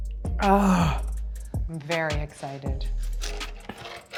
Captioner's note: sigh